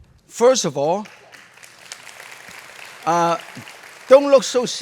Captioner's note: applause